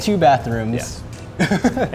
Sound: laughing

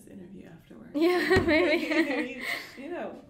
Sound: both laughing

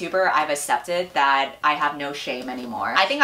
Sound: none

